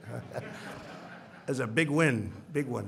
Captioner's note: laughter